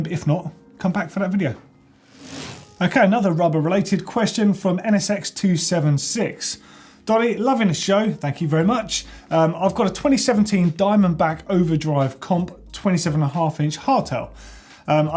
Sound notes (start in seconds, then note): 2.0 whoosh